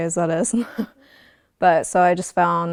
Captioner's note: chuckling